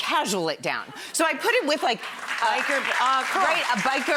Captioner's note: audience cheers